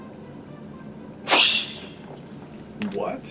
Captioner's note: fwoosh